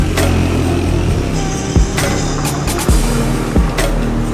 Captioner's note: road noises